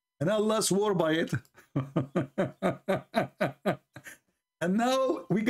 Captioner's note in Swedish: skratt